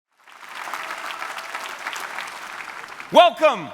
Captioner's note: audience clapping